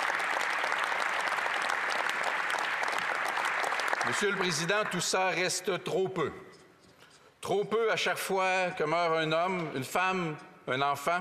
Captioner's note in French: applaudissements